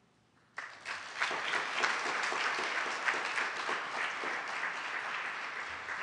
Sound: applause

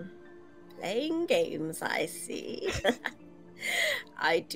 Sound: laughs

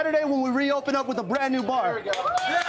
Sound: cheers

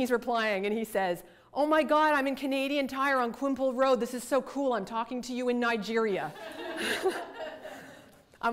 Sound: audience laughter

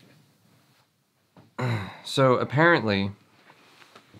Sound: clears throat

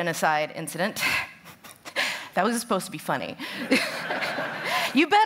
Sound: laughter; laughs

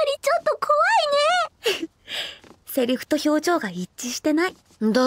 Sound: chuckles

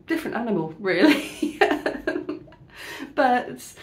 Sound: laughing

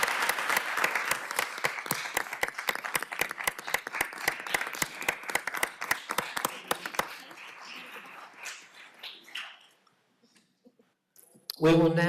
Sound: applause

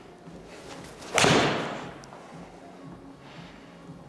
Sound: ball thuds

